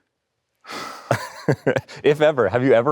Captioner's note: Arnold sighing